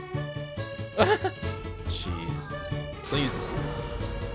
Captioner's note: laughs